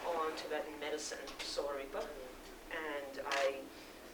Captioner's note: non-english speech